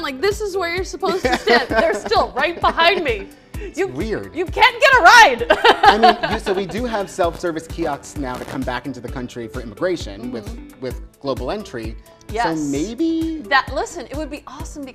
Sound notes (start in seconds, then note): 1.1 laughs; 5.3 laughs